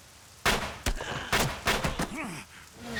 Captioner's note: gasps; groans; tyres screeching